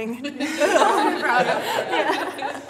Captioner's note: laughing